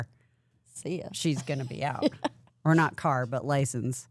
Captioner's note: chuckles